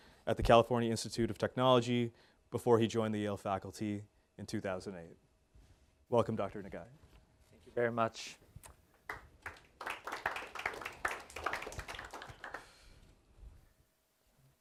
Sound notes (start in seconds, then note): 9.0 applause